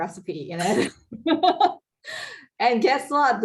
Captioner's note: laughs